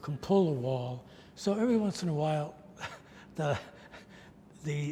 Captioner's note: laughs